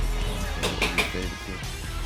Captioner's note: rock music; knuckles tapping